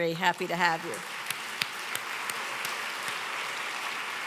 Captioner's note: applause